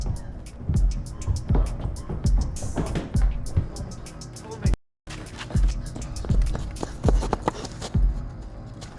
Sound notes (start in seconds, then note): 2.0 Mia panting; 5.2 dramatic music